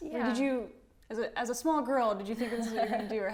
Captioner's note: laughs